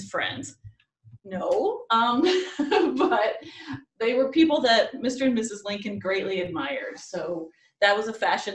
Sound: laughs

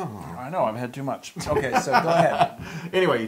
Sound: laugh

